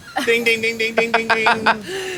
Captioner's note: booing, yelling